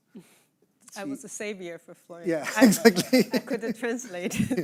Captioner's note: laughing